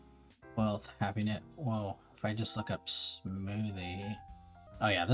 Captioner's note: mumbling smoothie stuff